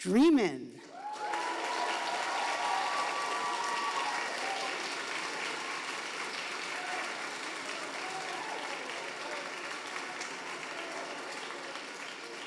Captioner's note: audience applauding